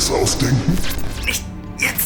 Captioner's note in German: Glitch